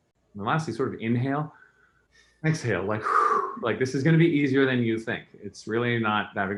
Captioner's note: exhales